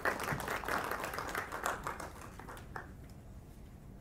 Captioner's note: applause